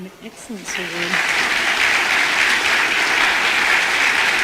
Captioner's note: audience applause